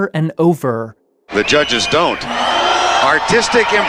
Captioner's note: crowd boos